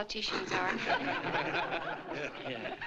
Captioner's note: laughter